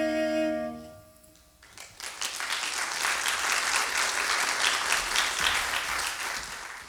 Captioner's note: music out. Applause